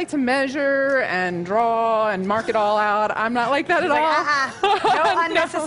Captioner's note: laughter